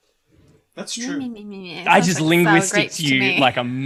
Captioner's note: joking mocking noises